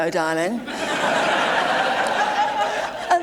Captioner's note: audience laughing